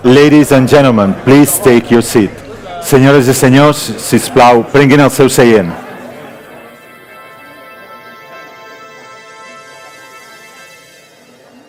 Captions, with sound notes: Ladies and gentlemen, please take your seat. (speaks in foreign language) (lighthearted music)